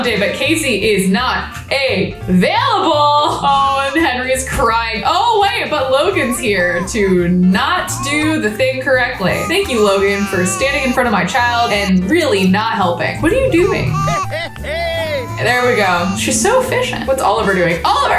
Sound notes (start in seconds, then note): 14.1 Logan cheers